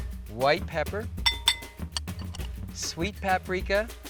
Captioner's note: glass bowl clanking